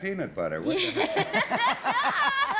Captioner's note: laughter